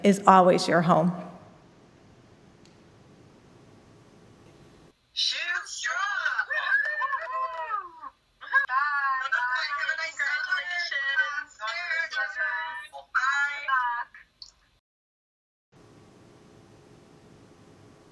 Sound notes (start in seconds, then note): 6.6 lecture laughs